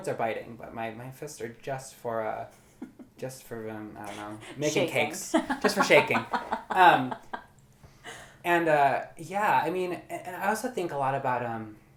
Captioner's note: laughs